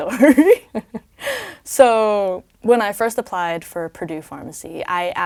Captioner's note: laugh